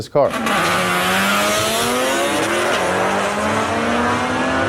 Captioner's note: engines roaring